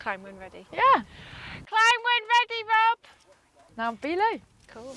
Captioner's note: shouts